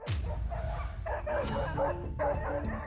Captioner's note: tense music; barking